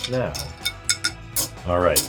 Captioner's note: spoon clanging